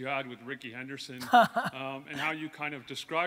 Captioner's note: Gary laughs